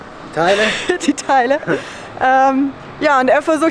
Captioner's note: laughter